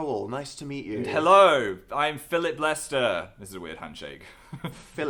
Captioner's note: giggle